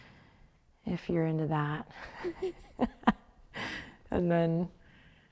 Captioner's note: laughs